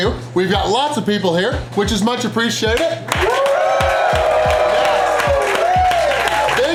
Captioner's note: crowd cheering